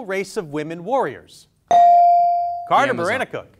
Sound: bell dings

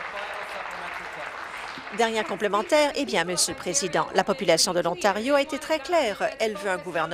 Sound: applause

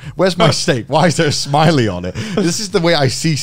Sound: laughing

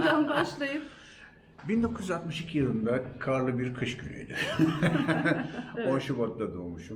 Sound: laughs

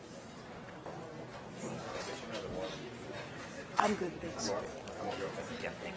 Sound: attendees chattering

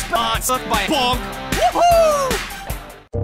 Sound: In Scout voice

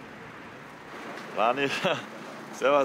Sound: laughs

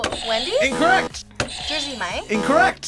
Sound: buzzer; buzzer rings; buzzer

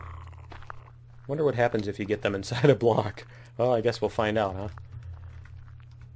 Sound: laughs

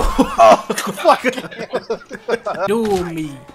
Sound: laughs

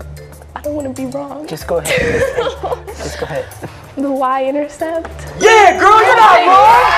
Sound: cheers and applause

